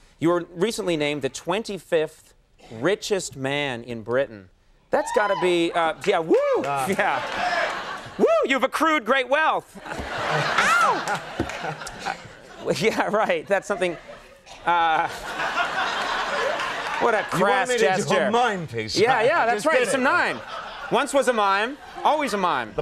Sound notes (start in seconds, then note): 5.7 someone exclaims; 6.7 crowd laughing; 14.8 crowd laughing